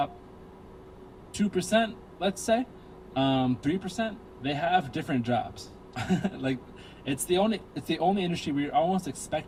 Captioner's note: laughs